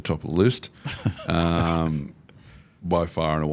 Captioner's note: laughing